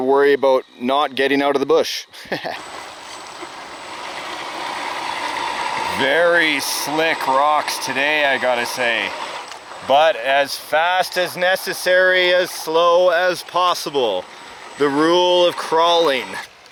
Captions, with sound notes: worry about not getting out of the bush. (laughs) (engine roars softly) Very slick rocks today, I gotta say. But as fast as necessary, as slow as possible. The rule of crawling.